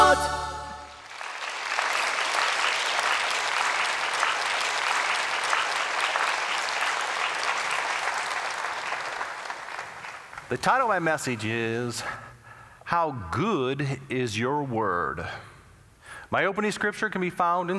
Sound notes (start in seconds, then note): 0.9 applause